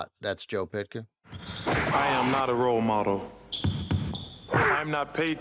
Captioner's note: basketball bouncing